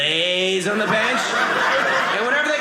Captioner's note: audience laughing